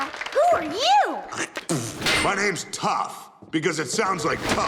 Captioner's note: spitting